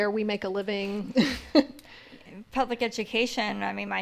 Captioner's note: laughs